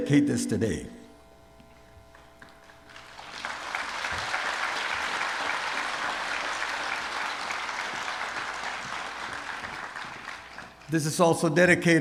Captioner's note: applause